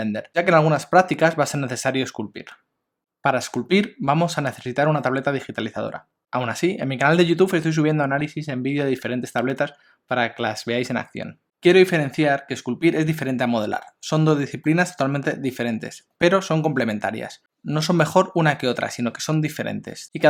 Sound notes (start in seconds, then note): 10.8 spanish